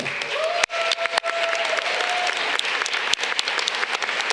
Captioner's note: audience cheering